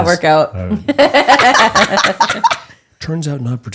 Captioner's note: laughing